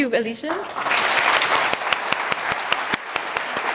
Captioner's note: applause